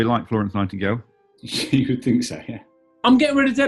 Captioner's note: laughs